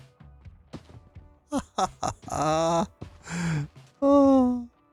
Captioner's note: laughs